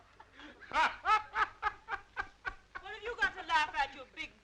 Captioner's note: Joe laughing